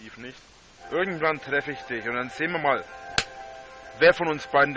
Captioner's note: whack!